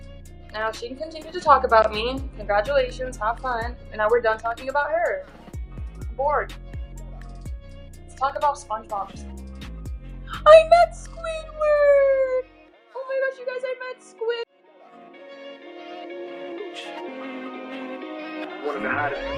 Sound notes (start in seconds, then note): 10.0 gross ass squeal